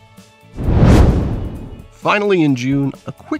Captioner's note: whoosh